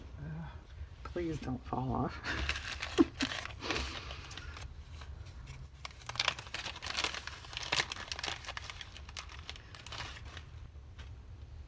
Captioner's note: laughs